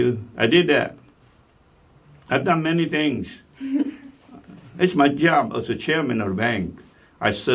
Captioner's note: laughs